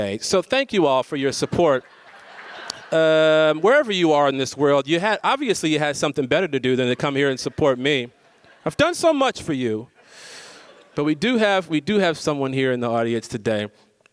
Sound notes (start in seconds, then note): 1.3 audience laughs; 10.1 audience laughs